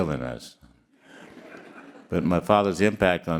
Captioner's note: all laughing